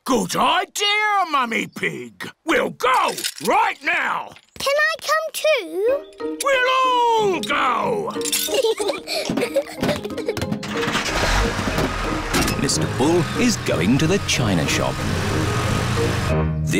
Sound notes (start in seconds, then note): 8.2 peppa and george giggle; 10.6 engine turns on